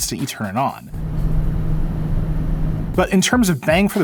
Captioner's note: computer whirring